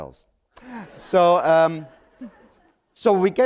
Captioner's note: laughter